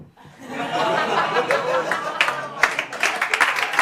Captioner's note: laughter and applause